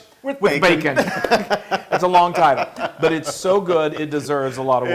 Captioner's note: laugh